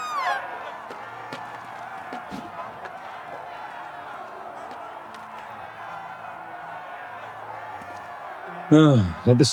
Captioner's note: screams; crowd cheering